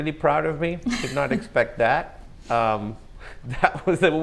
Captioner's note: laughs